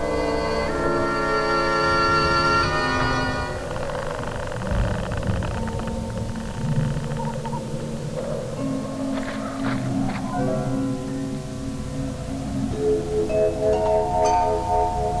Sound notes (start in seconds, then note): 0.0 eerie music; 4.2 wood creaking; 8.2 eerie music